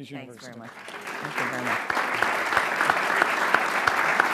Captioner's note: applause